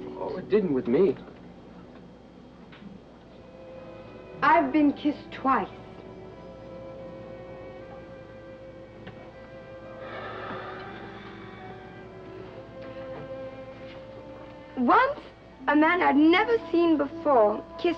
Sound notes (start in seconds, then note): 10.1 Peter sighs